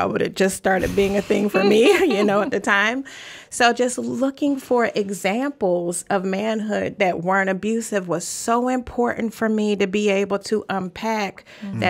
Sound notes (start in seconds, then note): 1.3 laughs